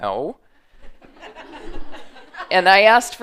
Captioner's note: laughter